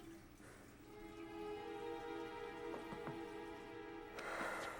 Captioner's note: Matt sighing